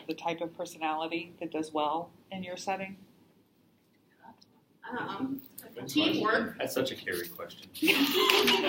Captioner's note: laughter